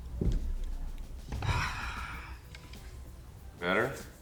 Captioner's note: Byron sighs